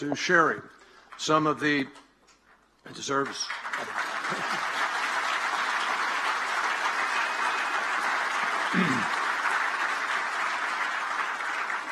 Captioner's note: applause